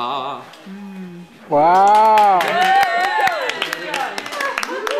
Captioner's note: applauding